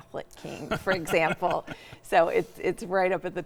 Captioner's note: laughs